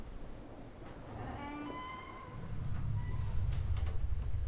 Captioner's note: door creaking